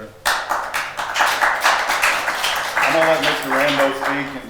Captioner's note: attendees applauding